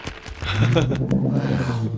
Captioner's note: surprised growl